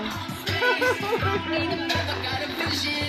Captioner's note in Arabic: يضحك